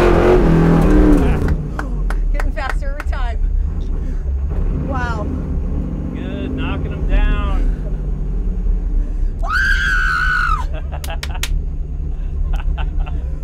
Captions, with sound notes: Getting faster every time. Wow. Good. Knocking them down. [Screaming] [Laughing]